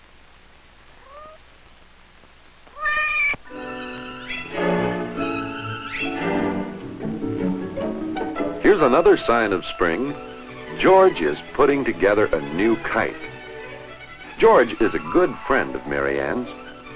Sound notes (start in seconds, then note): 2.6 meowing continues